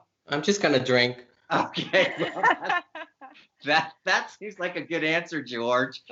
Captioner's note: laughter